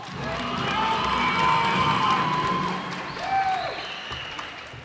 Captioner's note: cheers and applause